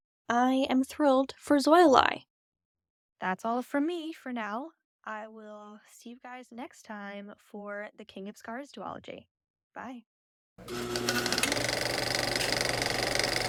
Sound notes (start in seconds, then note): 10.6 film projector whirring